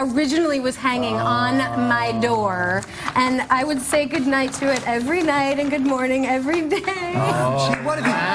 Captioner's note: sob